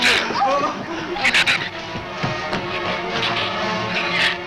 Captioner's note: shrew snarls